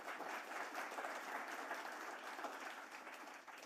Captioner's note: applause